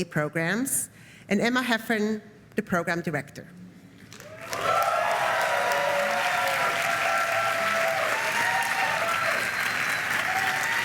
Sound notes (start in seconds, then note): 4.1 applause